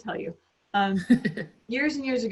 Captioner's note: laughs